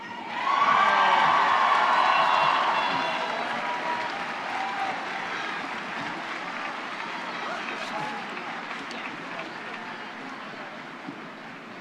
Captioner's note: applause and cheers